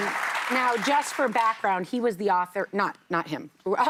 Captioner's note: applause